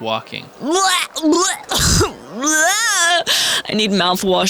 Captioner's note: Goldstar retching